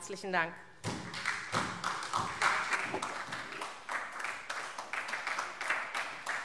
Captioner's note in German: Beifall SPD